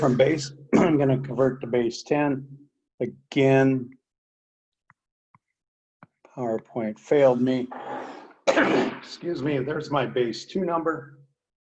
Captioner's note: coughs